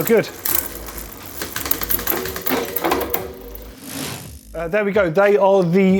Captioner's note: moving bicycle chain